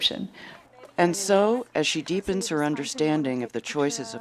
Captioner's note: voiceover